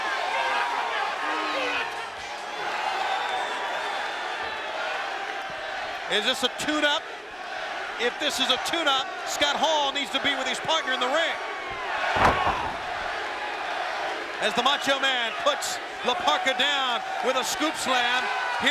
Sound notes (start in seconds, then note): 11.9 body thudding